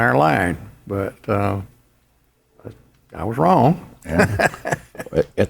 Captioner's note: laughs